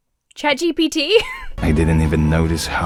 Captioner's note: Emma wheezes